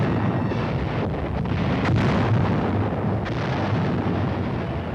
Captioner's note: explosions